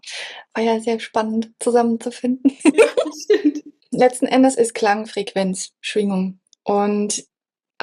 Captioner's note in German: gelächter